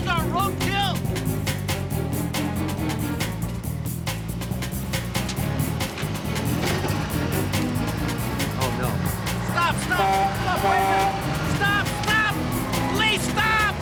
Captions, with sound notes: Pedestrians aren't road kill! Oh, no. Stop! Stop! (horn honking) Stop! Wait a second! Stop! Stop! Police! Stop!